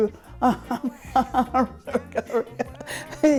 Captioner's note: laughs